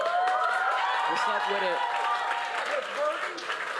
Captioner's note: applause